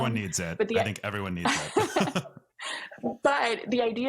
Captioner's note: both laugh